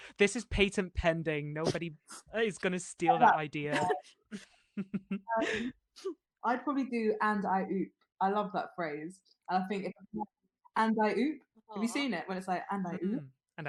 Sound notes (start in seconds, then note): 4.7 laughter